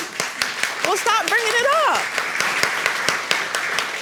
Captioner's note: audience applauds